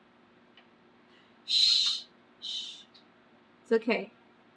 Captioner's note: shushes